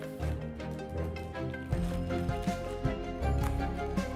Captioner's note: cutter clatters; plastic rustling; upbeat music